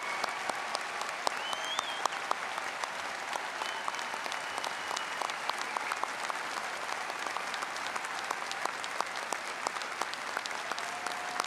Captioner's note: applause